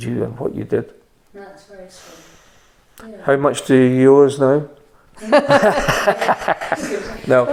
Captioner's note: laughter